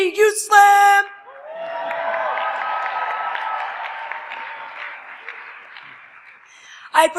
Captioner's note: applause